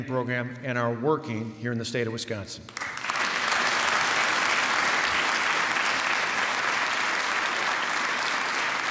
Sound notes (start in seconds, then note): 2.7 applause